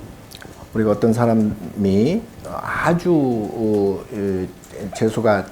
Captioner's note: speaking Korean